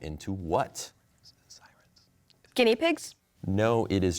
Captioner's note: whispering